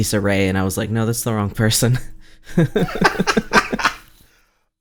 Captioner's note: laughs